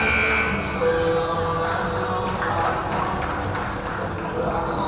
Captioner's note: buzzer blaring